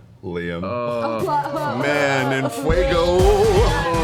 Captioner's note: groans, laughs